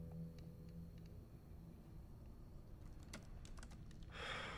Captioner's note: keyboard typing